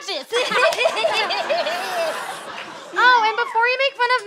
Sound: both giggle

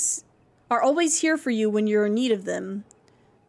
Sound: none

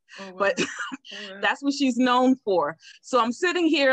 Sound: chuckles

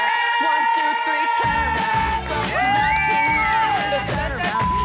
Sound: all cheering

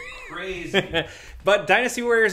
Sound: laughing

